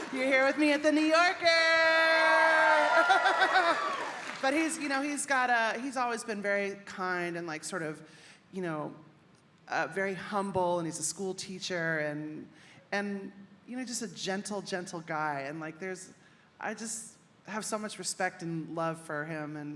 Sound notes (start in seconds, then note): 1.7 audience cheering; 2.8 laughing